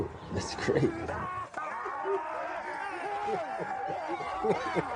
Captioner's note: actors screaming; laughing